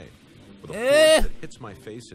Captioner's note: disgusted pewds' noises